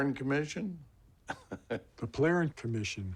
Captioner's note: chuckles